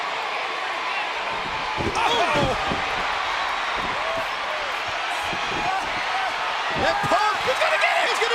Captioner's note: applause